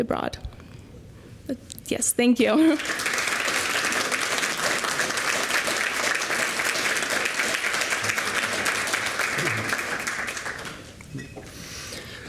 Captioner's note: applause